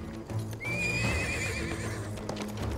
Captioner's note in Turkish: At kişneme sesi